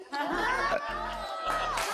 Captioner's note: burps